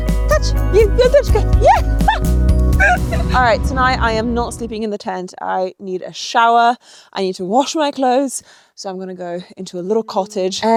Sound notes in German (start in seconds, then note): 0.8 lacht